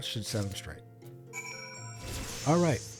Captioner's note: ding